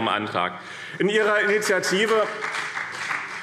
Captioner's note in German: Vereinzelter Beifall BÜNDNIS 90/DIE GRÜNEN und CDU